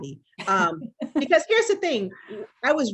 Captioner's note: laughs